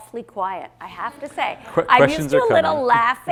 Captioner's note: audience laughing